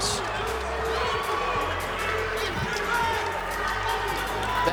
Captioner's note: cheering